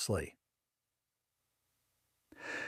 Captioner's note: pause